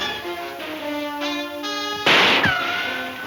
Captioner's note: ricocheting; distant guns firing; gun firing